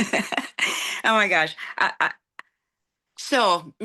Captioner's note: laughs